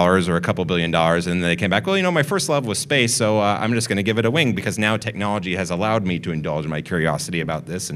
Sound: none

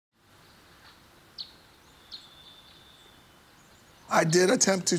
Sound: birds chirping

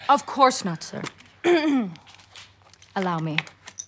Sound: clears throat

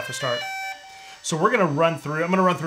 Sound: electronics beeping

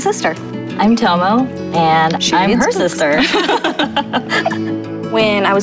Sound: laughing

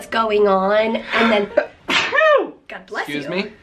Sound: sneezes

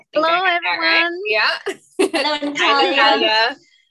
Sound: laughs

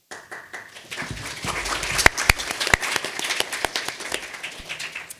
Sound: audience applauding

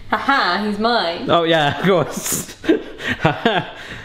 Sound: laughing

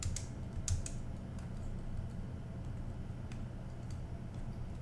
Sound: typing

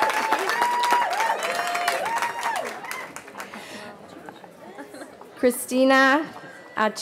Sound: cheering

